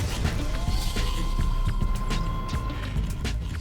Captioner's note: machine whirs